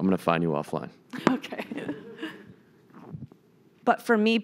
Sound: laughing

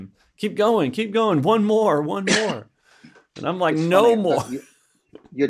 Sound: laughs

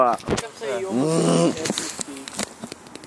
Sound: grunt

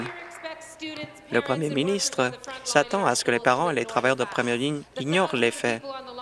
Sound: applause

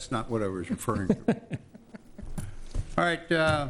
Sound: laughing

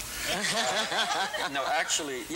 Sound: laughter

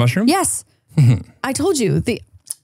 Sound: chuckles

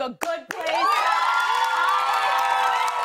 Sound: cheers and applause

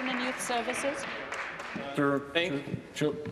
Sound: applause

